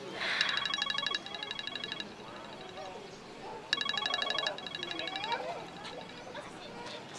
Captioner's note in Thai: เสียงโทรศัพท์